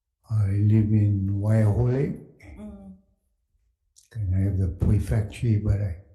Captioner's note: speaking Hawaiian